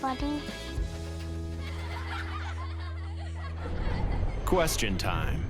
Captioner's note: children laughing